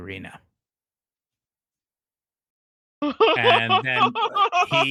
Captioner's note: laughing